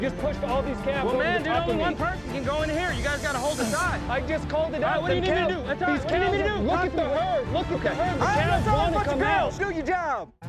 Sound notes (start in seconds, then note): 7.1 cowboys all arguing